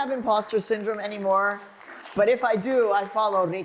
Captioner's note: applause